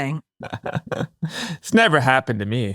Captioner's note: laughs